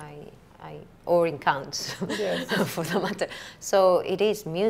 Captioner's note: laughs